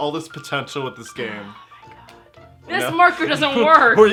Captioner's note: whispers